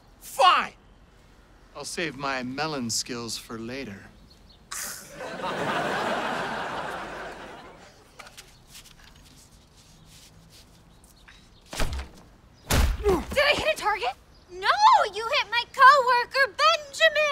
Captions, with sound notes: Fine. I'll save my melon skills for later. [scoffs] [groaning] Did I hit a target? No. You hit my coworker, Benjamin.